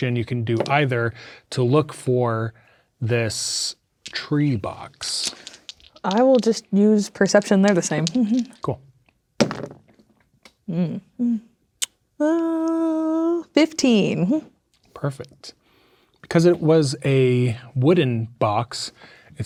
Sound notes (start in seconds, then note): 7.0 dice rattling; 9.3 dice rolling